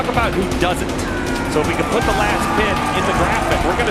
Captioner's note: crowd cheering